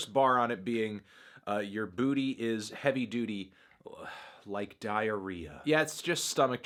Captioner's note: sigh